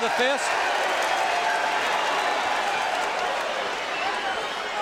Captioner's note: audience cheering